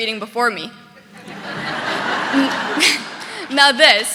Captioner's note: audience laughing